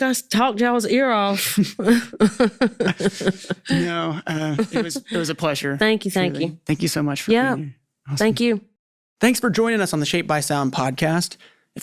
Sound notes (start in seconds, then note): 1.4 laughing